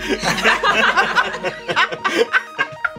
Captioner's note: laughter